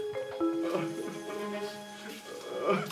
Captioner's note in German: Fernes Schluchzen